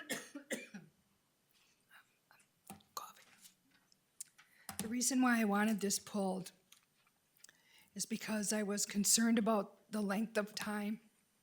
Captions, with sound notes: (speaks faintly) coughing. The reason why I wanted this pulled is because I was concerned about the length of time.